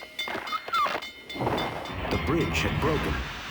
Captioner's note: train bell clanging; bridge creaking